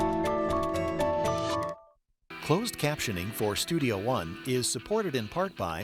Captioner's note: voiceover